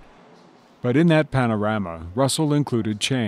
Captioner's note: voiceover